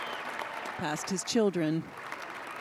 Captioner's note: cheers and applause